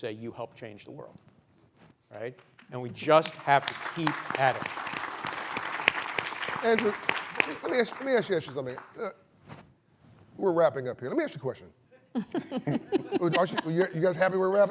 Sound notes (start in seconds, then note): 5.6 applause